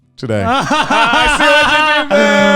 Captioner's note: guys laughing